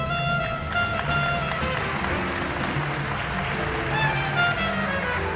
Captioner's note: audience applauds